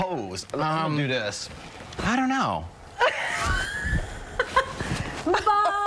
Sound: laughter

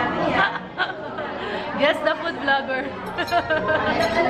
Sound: laughs

